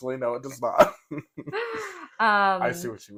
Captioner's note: laugh